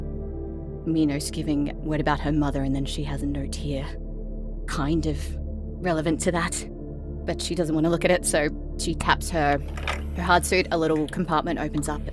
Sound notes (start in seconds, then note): none